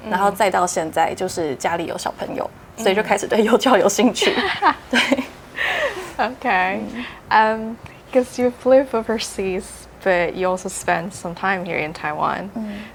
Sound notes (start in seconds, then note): 4.9 chuckles